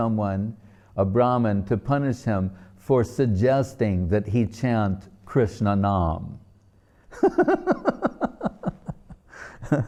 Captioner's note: laughing